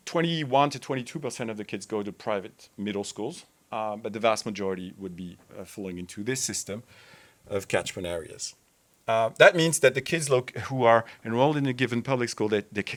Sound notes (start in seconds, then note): none